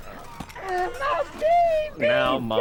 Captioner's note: Ma Duncan crying